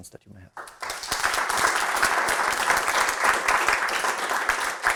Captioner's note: audience applauds